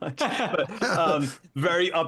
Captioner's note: laughing